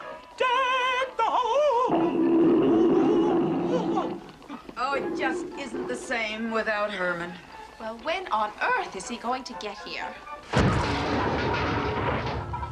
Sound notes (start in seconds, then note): 0.3 singing; 1.8 choking; 10.4 crash